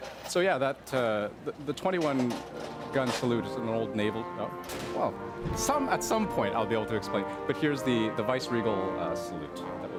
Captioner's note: gun salute